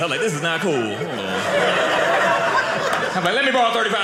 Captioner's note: audience laughing